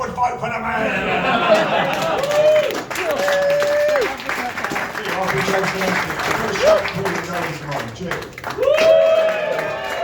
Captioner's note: laughter, applause & whooping; more laughter, applause & whooping